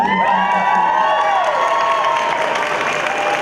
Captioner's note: cheering